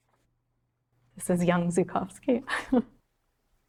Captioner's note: chuckling